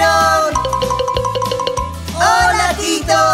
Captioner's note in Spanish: Sonido de campana